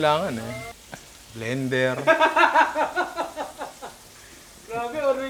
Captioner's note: laughs